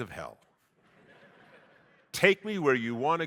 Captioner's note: audience laughing